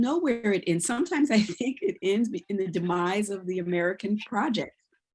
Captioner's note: chuckles